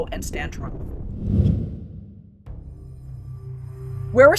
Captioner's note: air whooshing; pensive music